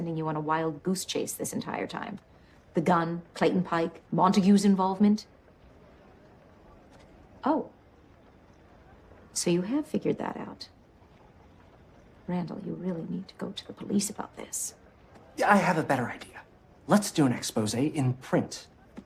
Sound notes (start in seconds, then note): none